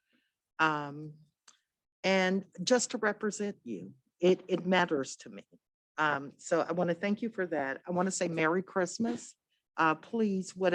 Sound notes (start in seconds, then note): none